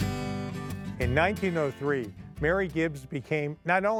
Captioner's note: soft guitar music; voiceover